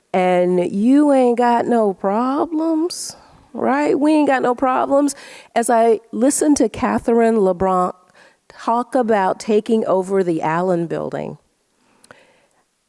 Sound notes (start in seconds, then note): none